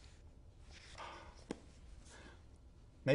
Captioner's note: sigh